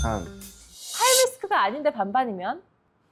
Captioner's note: slightly weird sound effect